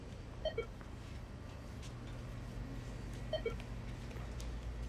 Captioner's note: register beeping